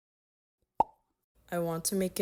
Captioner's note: pop